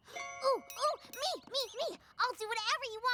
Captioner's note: poink!